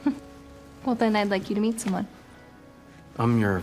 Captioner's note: chuckles